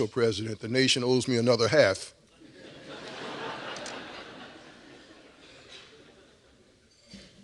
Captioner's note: laughter